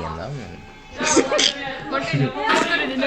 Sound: goofy laughter

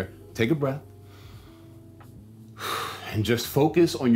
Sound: instructor exhaling; instructor inhaling

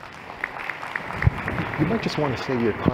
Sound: applause

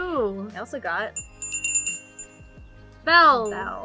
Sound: bell rings

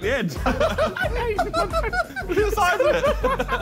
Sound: all laughing

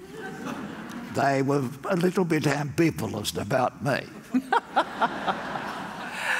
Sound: laugh; laugh

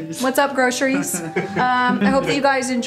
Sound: laughs

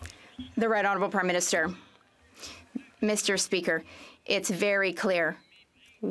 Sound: some Applause

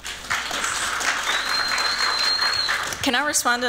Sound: applause; whistling

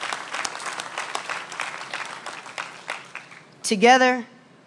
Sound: applause

